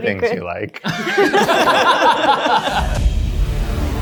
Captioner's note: all laughing; dramatic music